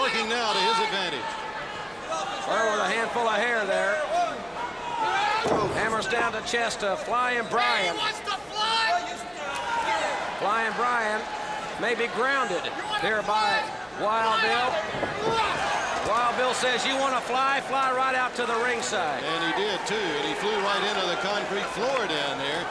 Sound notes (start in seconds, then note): 5.1 crowd chatter; 8.3 crowd cheering